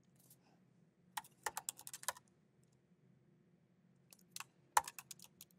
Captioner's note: keyboard clacking